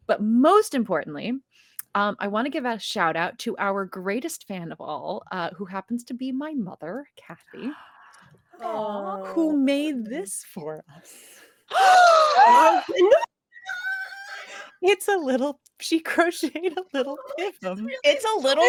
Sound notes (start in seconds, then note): 11.9 players gasp